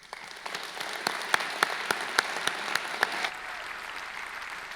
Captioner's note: audience clapping